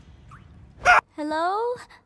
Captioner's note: shrieks